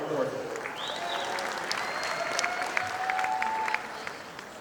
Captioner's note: audience applauding